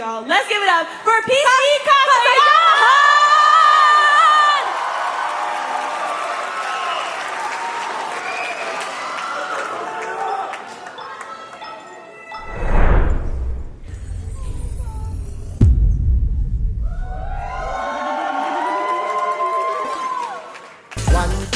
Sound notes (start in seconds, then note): 3.8 applause; 4.5 cheering